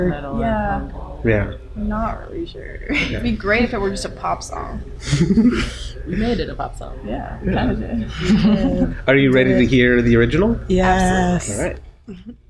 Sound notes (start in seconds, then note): 2.8 laughs